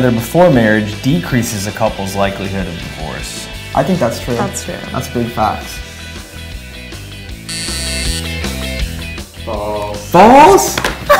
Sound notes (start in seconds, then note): 7.4 buzzer sound